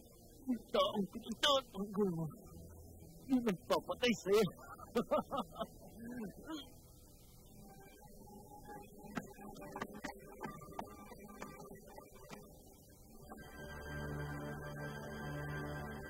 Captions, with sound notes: The person you’re looking after, is the one who’s going to kill you. [Laughs]